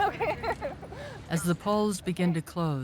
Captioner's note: laughs